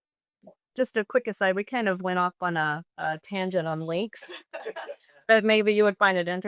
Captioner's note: chuckles